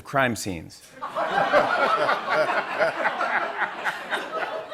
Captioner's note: laughter